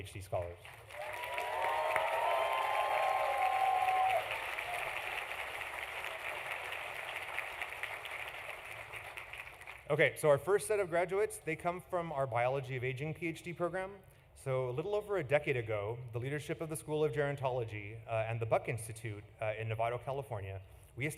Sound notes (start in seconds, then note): 5.6 applause; 5.6 cheering